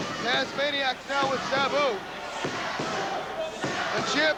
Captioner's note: crowd cheering